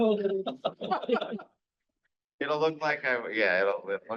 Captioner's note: people laughing